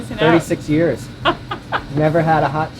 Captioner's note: laughs